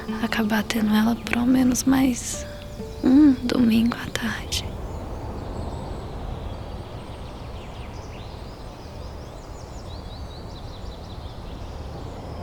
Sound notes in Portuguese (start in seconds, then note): 5.1 Farfalhar; 7.8 Chilreio de pássaros